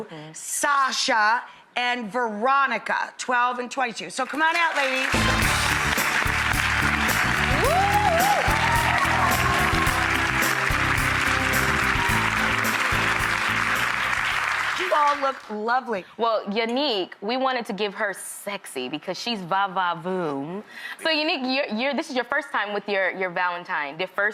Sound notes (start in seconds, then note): 5.2 audience applauds; 5.2 bright music; 7.8 audience cheers